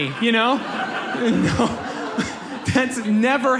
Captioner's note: audience laughs